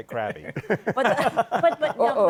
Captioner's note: laughter